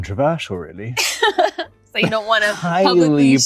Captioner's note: laughs